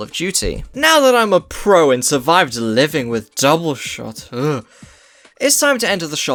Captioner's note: shudders